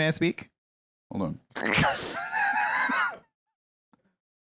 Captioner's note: laughs